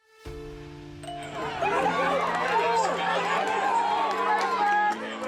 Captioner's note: motivational instrumental music; crowd cheering